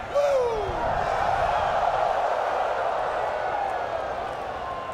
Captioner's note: crowd cheering